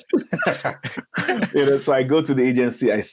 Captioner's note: speakers laughing